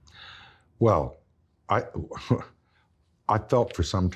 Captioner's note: chuckles